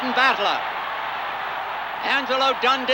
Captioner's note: crowd cheering continues